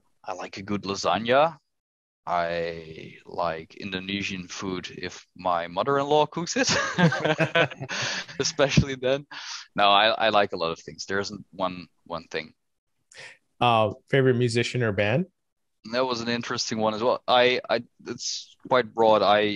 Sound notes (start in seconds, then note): 6.6 laughter